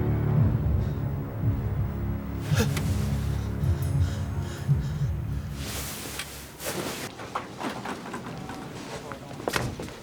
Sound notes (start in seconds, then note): 2.4 gasps